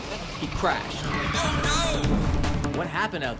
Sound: screeching tires

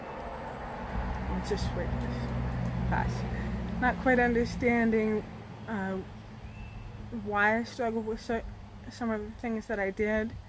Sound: noise of car

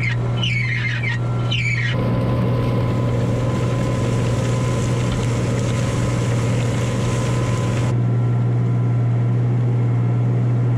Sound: tractor sound

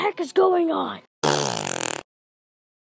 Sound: farts

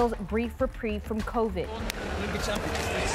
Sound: cheers and Applause

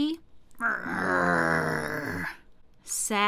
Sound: growling

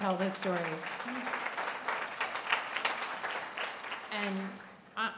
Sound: applause

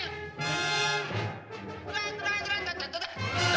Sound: imitates bugle call

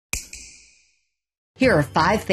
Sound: snap

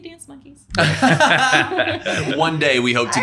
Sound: everyone laughing

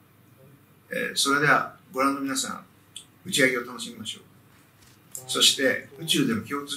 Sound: speaker speaks in foreign language

